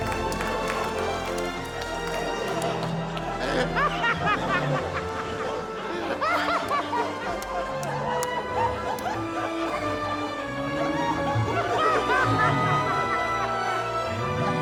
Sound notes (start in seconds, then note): 3.7 laughter; 11.9 orchestral music continues